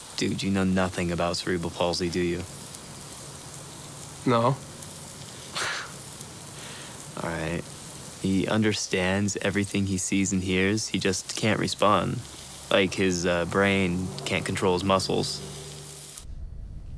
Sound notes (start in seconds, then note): 5.5 scoffs